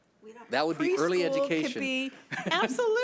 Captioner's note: laughs